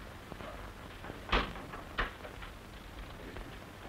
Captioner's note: door opening